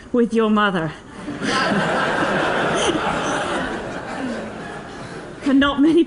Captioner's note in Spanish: risas